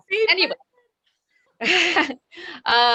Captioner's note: laughs